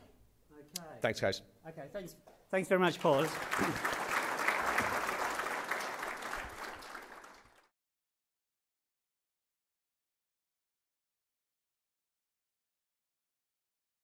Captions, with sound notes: - Thank guys. - Thanks very much, Paul. (applause)